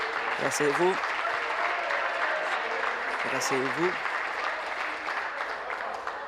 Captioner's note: applause